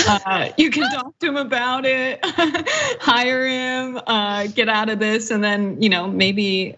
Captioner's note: laugh